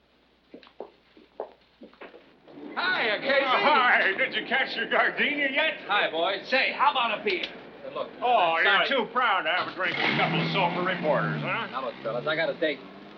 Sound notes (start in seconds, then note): 9.6 vehicle departing